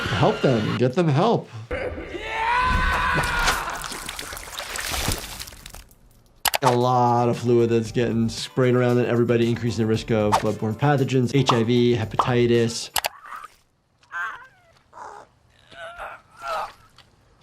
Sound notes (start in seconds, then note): 1.8 person yelling; 2.9 innards splattering; 14.1 groaning